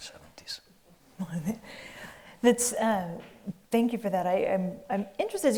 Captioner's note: giggling